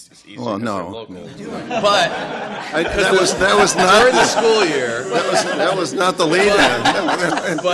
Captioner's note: laughter